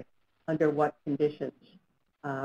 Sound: voiceover

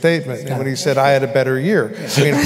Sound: laughter

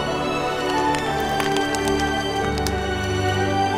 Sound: fire crackling

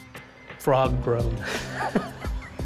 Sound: laughing

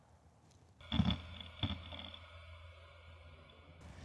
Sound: grinding

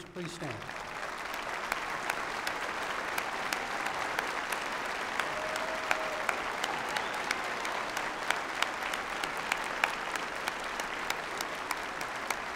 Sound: applause

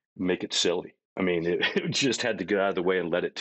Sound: chuckling

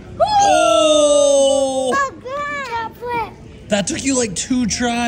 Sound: shout

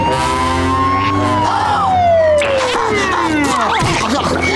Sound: sirens wailing; panting

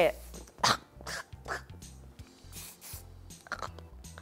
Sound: coughing

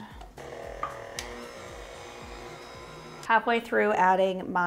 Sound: stand mixer whirring

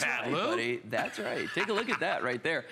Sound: laughter

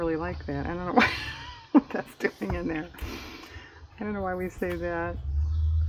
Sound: laughs

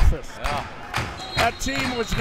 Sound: whistle tweeting

